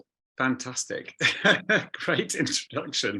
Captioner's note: chuckles